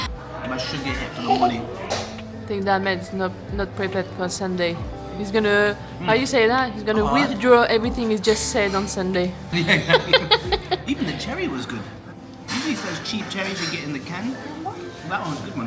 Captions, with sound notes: - My sugar's getting a little molly. - I think that meds not prepared for Sunday. He's gonna, how you say that? He's gonna withdraw everything he just said on Sunday. (laughing) - Even the cherry was good. I think these first cheap cherries we get in the can. That one's a good one.